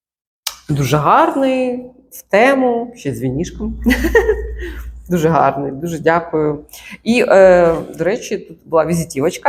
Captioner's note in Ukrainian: сміх